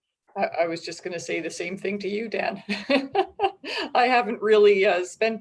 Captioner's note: laughs